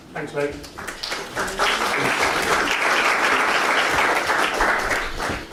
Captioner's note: audience applauds